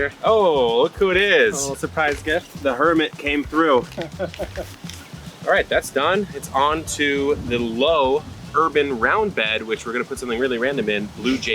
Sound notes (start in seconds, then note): 3.3 chuckles